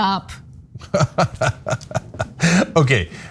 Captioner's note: laugh